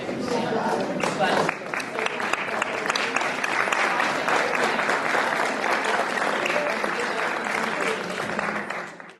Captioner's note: applause